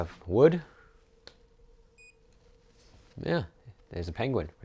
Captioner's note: beeping